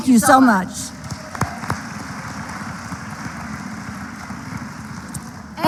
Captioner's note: applause